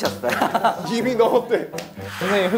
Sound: kekeke

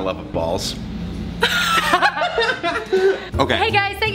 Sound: laughter

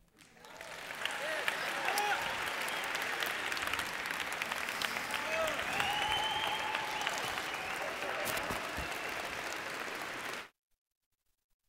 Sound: applause

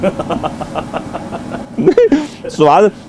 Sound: laughter

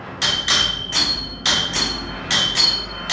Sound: clanking

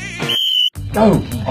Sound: whistle

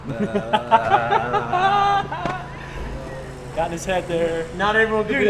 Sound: laughter

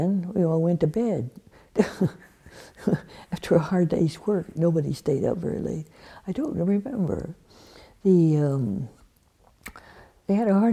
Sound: laughs

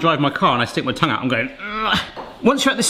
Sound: grunts

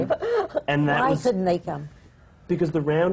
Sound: laughs

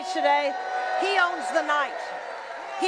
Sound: audience screaming

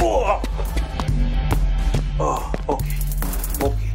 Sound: Papi grunts

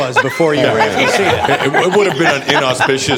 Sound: laughter

